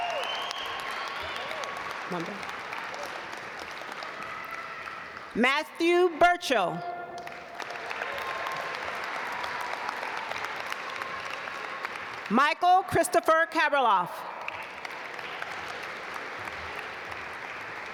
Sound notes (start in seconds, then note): 0.0 audience applaud; 7.1 audience applaud; 14.2 audience applaud